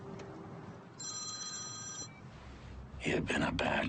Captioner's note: phone ringing